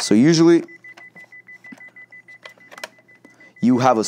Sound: beeping

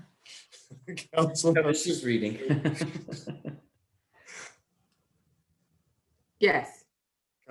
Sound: laughing

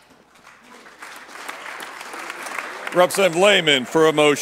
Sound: applause

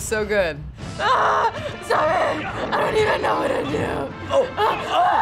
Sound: grunts; screams

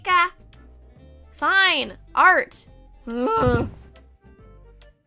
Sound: groans

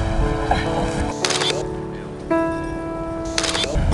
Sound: click of a camera shutter

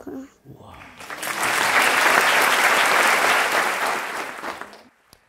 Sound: applause

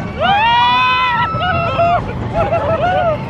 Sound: screaming

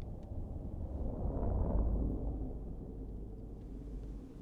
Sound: car passes

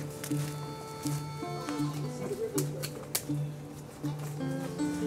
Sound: lighthearted acoustic music returns; footsteps crunching gently

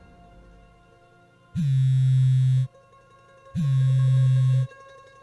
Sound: phone vibrating sound

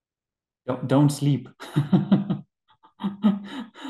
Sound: laughing

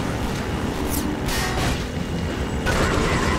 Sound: gunshots; metal clanging; Combine radio chatter

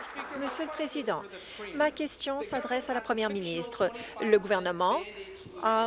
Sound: applause

